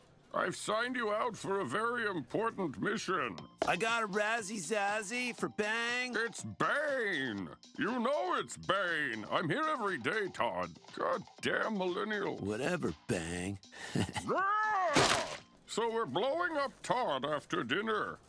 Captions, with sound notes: I've signed you out for a very important mission. I got a Razzy Zazzy for ”Bang.” It's Bane! You know it’s Bane. I'm here everyday, Todd. Goddamn millennials. Whatever, Bang! (chuckling) (groans) So we're blowing up Todd after dinner.